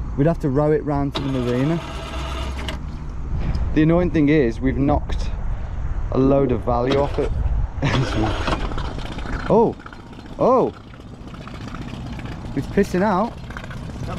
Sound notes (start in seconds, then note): 2.6 engine rumbles; 9.5 engine purrs